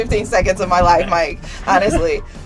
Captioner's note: laughs